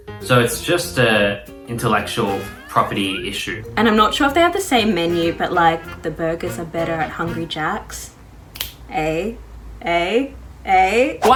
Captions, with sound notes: So it's just a intellectual property issue. - And I'm not sure if they have the same menu, but like the burgers are better at Hungry Jack's. (snaps) Eh, eh, eh.